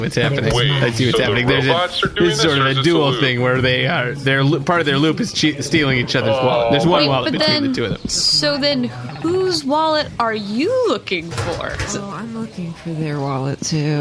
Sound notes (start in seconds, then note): 2.9 laughing